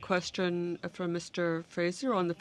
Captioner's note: speaking french